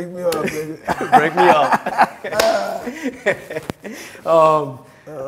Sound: both laughing

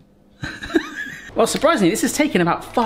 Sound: laughs

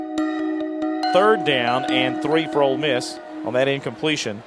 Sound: voiceover

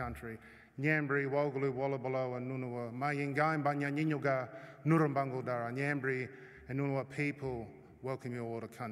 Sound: non-english speech

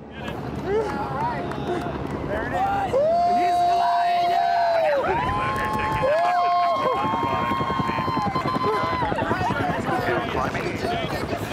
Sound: cheers and applause

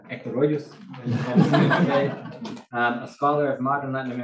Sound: laughing

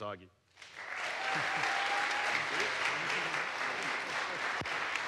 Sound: audience applauds

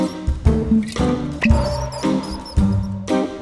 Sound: door creaks open; cork pops

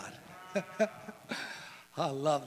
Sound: chuckles

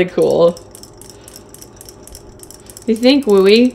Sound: toys clicking

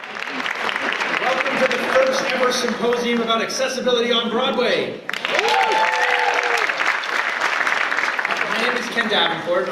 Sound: applause

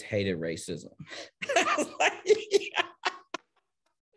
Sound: laughing

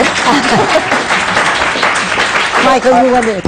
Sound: applause

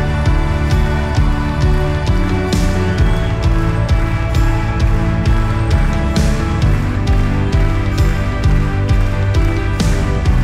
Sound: crowd claps along to beat

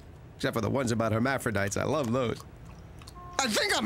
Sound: none

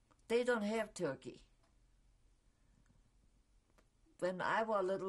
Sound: pauses for 3 seconds

